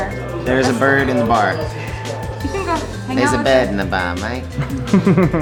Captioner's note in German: australischer Akzent